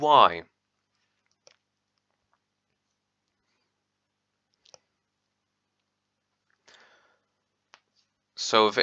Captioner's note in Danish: really long pause